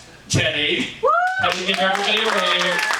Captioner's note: audience applauding